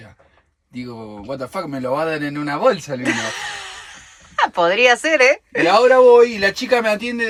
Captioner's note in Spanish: risas